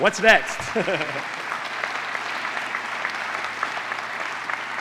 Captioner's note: applause